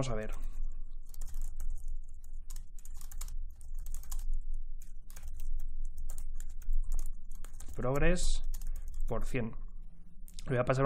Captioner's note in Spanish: Teclado